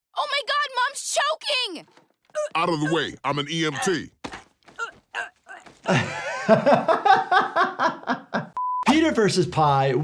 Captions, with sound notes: - Oh my god, Mom's choking! - Out of the way, I'm an EMT. (Lois groans) (doctor laughs) - Peter versus pie,